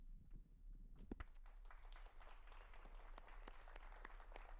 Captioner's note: audience applauding